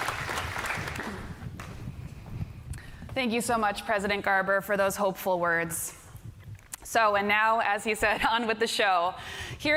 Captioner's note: applause